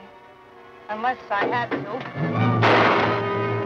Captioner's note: gunshot